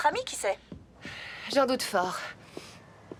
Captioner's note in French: soupir